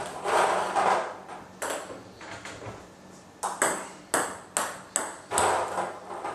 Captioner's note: ball ping pong hitting continues